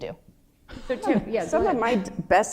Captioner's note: laughter